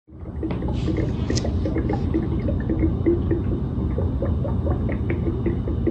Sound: sound of bubbling water

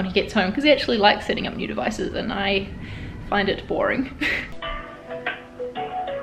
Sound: laughs

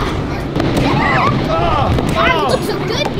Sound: Heroes laughing

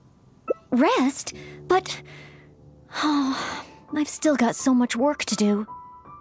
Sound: sigh

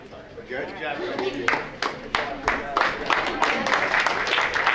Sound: audience clapping

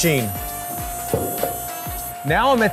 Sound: machine humming

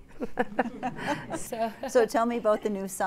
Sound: laughter

